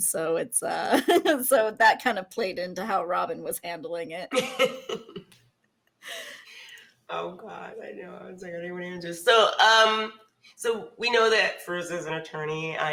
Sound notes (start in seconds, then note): 4.3 laughs